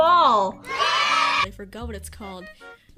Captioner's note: cheering